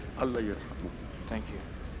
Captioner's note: speaking in a foreign language